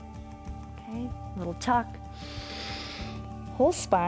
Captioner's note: inhales